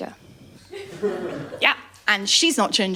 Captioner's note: laughter